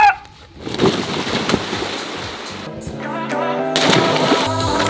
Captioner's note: man yells; man splashes into water